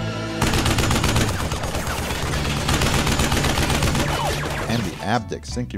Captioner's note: gunshots